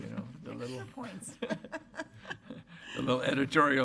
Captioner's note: laughing